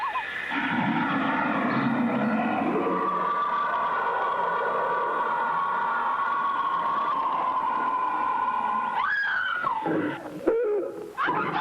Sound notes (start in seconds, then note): 0.4 creature roaring; 8.9 woman screaming; 11.4 people screaming